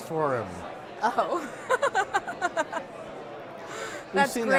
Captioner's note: laughing